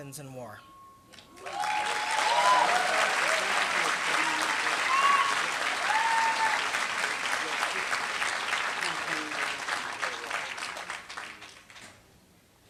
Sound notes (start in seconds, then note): 1.6 applause